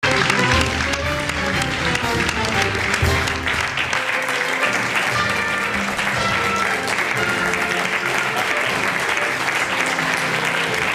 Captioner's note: applause